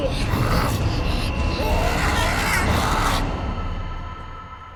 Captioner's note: Jack groans